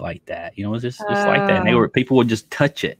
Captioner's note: woman groaning